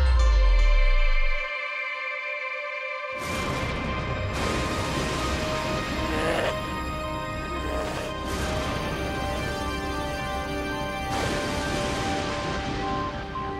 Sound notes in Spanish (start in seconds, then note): 5.7 Gruñidos